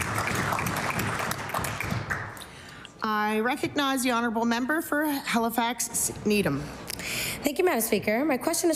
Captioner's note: cheering/Applause